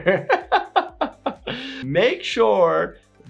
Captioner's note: laughing